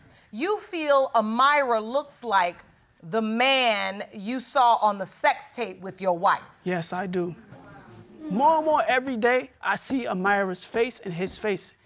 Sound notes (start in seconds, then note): 7.2 audience exclaims